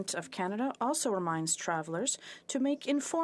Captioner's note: speaking French